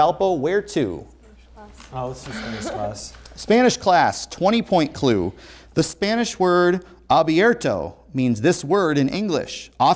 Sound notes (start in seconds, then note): 1.3 whispering